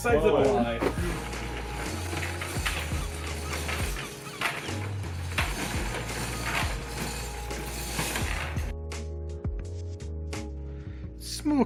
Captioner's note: door chain sound